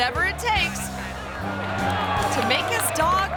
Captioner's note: crowd applauding